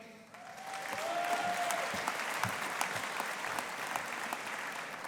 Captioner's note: audience applauding